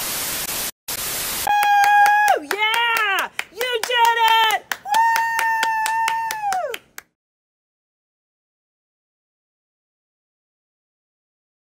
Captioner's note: cheering and clapping